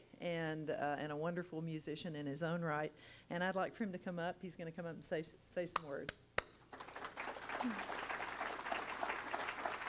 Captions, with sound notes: and a wonderful musician in his own right. And I'd like for him to come up, he's gonna come up and say some words (applauds). (crowd applauding)